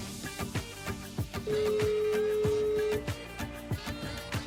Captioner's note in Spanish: Tono de llamada